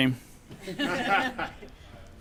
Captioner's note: crowd laughs